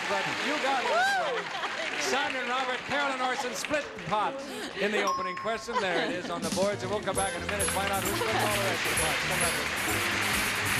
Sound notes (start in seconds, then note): 5.0 ding